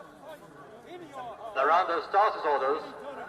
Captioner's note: recorded sound of horse race